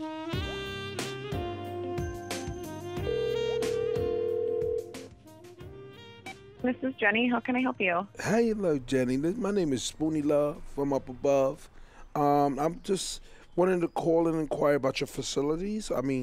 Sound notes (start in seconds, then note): 0.0 romantic music; 3.0 phone ringing